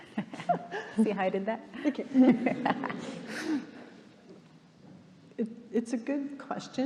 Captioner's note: panelists laughing